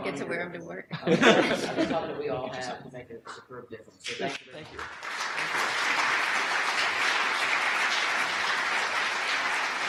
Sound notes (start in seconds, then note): 1.0 laughs; 4.6 audience applause